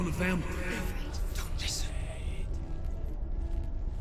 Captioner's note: whisper